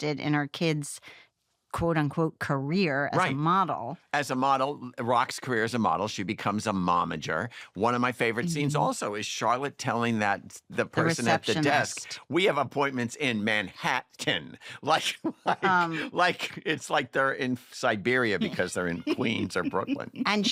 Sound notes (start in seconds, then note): 14.7 laughs; 18.4 laughter